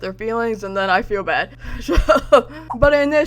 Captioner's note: laughs